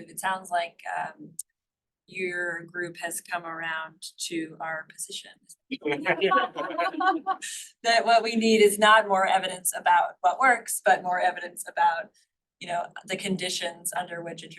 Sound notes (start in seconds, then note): 5.8 laughter